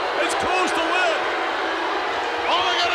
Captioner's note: audience jeers